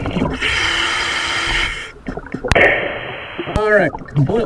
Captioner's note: regulator hissing